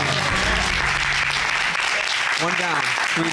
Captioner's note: applause